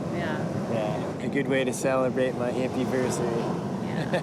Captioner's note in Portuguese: riso